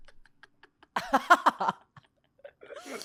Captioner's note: laughs